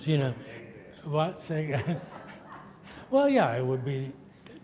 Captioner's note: audience laughs